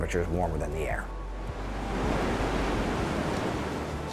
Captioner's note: waves crashing